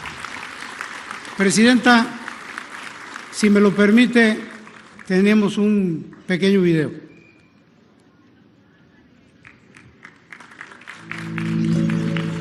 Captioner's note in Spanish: aplausos